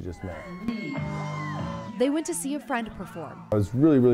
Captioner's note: cell phone